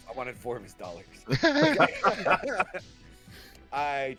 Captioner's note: laughter